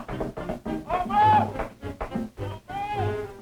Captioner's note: yelling